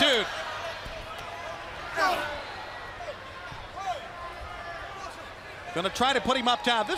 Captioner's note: crowd cheering